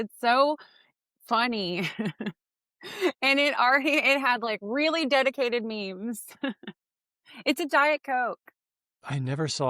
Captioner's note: laughs